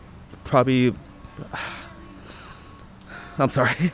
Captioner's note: sighs